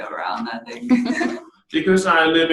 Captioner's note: laughs